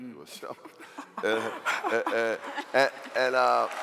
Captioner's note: laughing; cheering